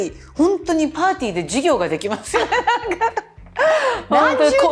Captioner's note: laughter